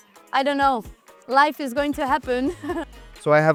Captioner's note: laughs